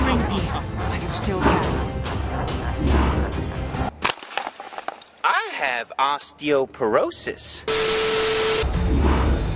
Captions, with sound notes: *thud* I have Osteoporosis! *static*